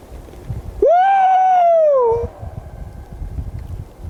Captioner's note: yelps